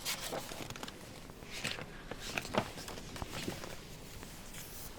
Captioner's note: flips page